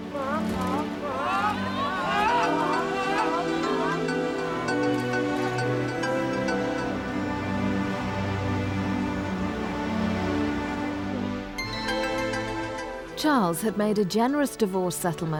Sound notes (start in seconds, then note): 0.0 crowd shouting; 3.9 mellow music